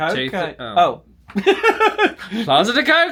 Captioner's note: laughs